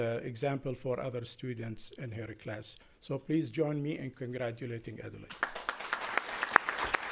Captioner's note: applause